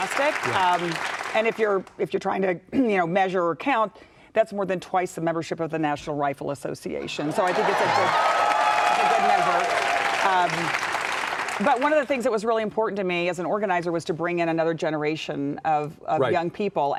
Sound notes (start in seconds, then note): 0.0 audience clapping; 9.6 audience cheering